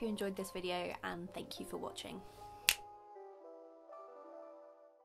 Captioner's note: finger snap